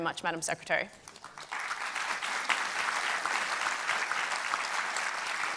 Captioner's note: audience and panel applauding